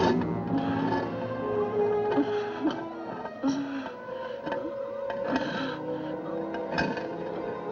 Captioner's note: woman Straining, Moaning Quietly